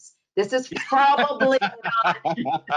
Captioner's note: laughs